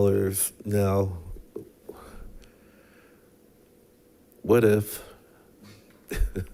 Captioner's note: laughs